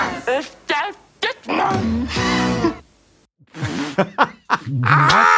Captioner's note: woman speaks in German; laughs